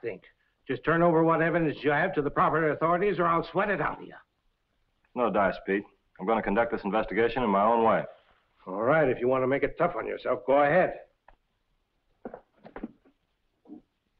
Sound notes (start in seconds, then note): none